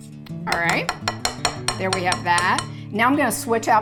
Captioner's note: whisk knocking